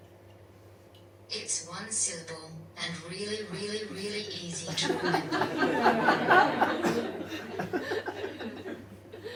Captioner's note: audience laughs